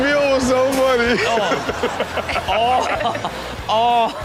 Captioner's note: everyone laughs